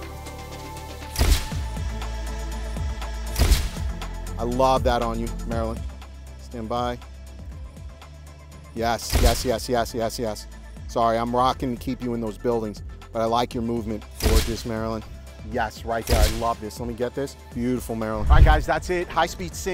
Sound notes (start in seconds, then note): 0.0 shutter snaps; 0.0 tranquil house music; 3.4 shutter snaps; 9.1 shutter snaps; 14.4 shutter snaps